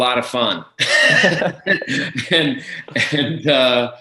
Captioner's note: both laughing